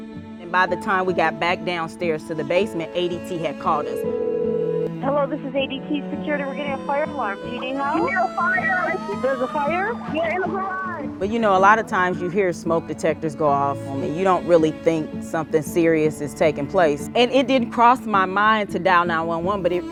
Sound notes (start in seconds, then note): 3.5 phone ringing